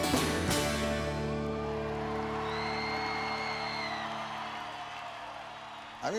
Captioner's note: audience cheering